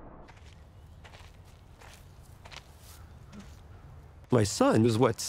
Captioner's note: footsteps crunching